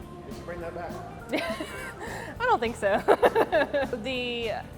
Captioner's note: laughs